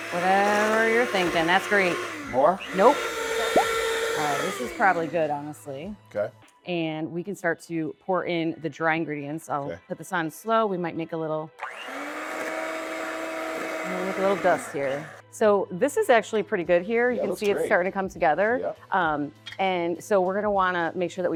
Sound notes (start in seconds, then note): 3.2 blender whirring; 11.6 blender whirring